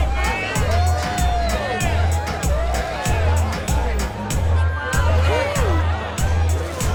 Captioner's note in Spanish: Bullicio